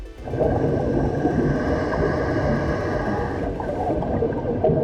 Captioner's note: breathing